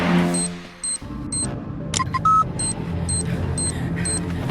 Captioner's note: collar beeping